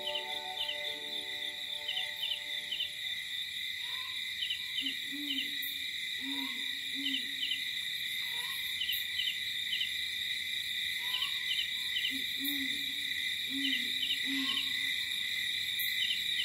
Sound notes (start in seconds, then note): 0.2 crickets chirping; 5.6 owl hooting; 8.6 light jungle ambience